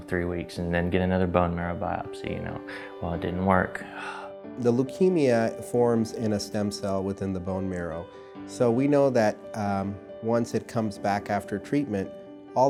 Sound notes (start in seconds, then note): 3.9 sighs